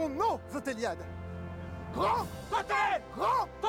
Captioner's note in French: en choeur